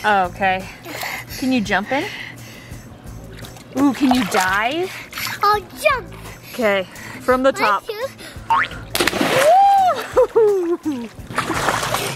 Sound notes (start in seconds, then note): 8.9 splash